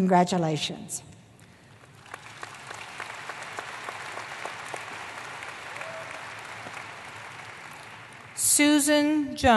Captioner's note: applause